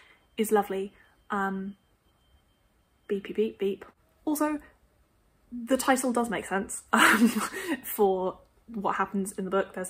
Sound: background beeping noise

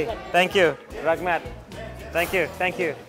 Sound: foreign language

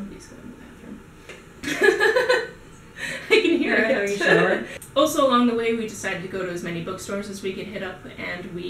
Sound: laughter

